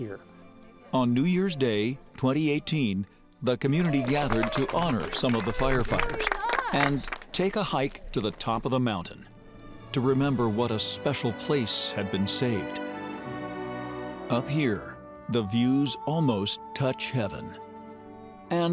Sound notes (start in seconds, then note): 5.9 sound of clapping